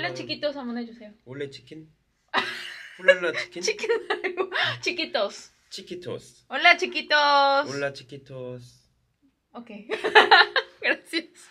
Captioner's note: laughs